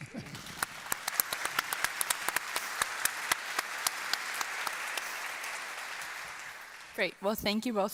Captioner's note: applause